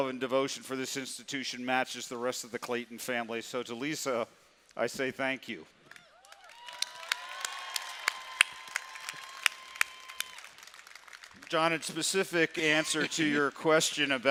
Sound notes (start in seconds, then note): 6.0 cheering